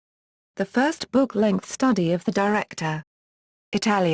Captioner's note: Italian